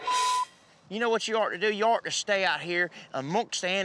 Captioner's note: imitates australian accent